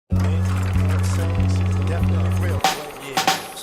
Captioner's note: film rolling; hip hop music playing